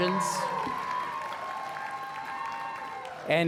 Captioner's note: applause